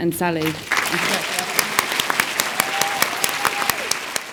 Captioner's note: all clap